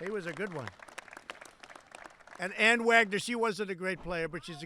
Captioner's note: applause